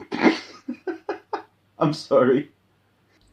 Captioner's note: wheeze